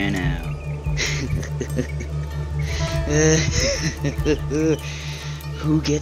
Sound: delusional laughing

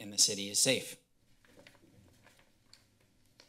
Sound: silence

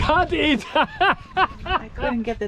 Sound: laughs

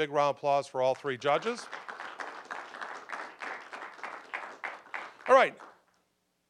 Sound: applause

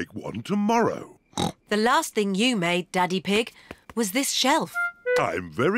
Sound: snorts

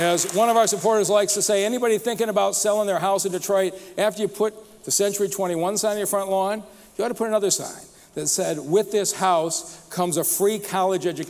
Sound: applause

